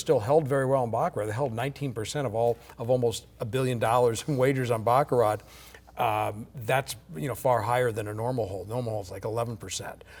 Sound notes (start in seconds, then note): none